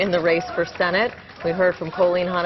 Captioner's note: applause